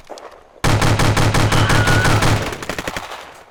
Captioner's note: scream